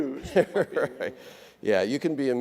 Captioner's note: laughs